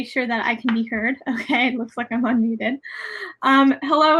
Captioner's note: laughs